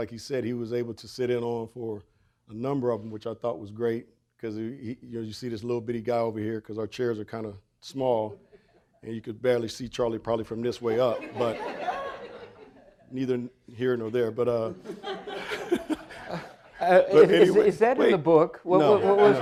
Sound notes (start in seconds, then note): 10.9 audience laughing; 14.7 laughs